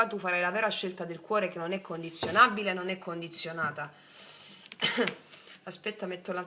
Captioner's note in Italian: schiarire la voce